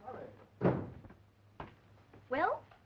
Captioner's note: door closing